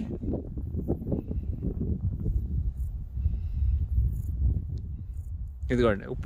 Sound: wind gushing

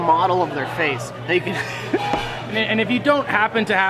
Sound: laughs

